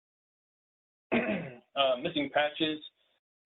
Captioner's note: clears throat